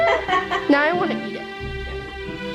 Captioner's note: mom laughing